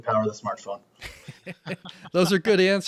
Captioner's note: laughing